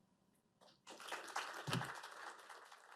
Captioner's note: applause